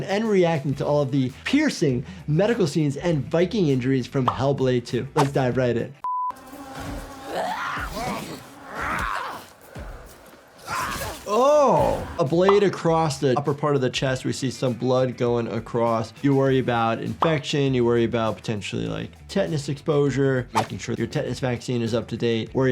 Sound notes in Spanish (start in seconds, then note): 7.0 Senua gritando; 8.4 enemigo gruñendo